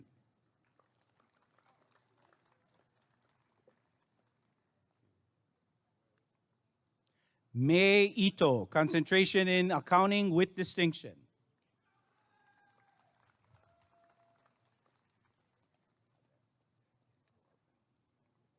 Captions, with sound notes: [applause and cheering] Mei Ito Concentration in Accounting with Distinction [applause and cheering]